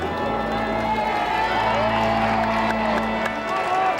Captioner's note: crowd cheering